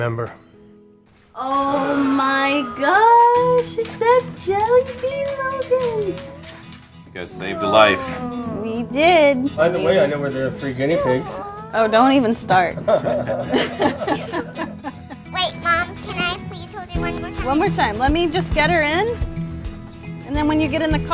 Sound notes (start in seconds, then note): 16.2 laughter